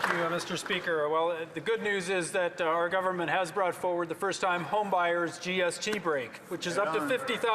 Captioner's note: some Applause